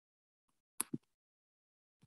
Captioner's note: mouse clicking